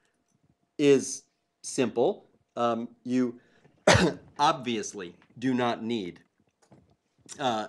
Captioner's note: cough